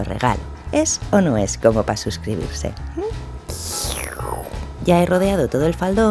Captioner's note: sips coffee